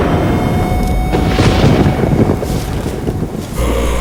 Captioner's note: thunder rumbling